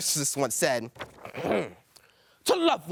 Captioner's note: clears throat